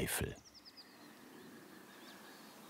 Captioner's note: birds chirping